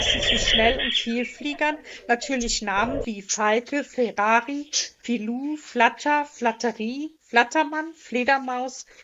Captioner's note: flutter